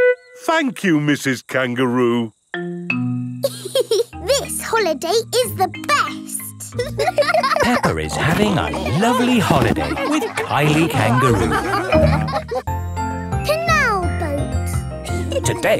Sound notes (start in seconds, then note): 4.0 giggles; 6.7 laughing; 11.9 all laughing